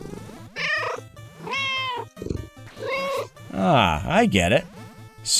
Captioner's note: meow